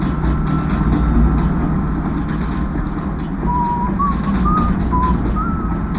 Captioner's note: whistling nonchalantly